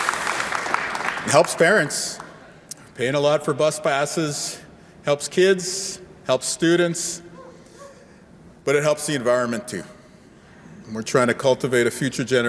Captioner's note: cheer and applause